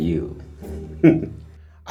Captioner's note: laugh